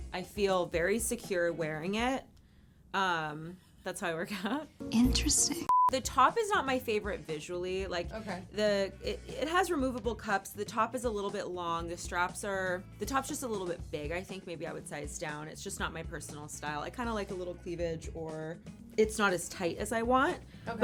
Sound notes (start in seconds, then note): 5.0 screen beeps